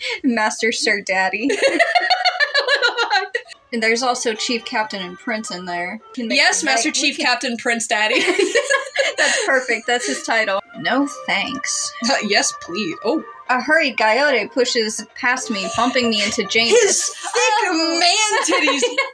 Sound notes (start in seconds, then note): 2.0 cackling; 8.0 both Laugh; 18.7 laugh